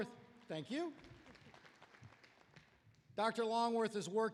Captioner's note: applause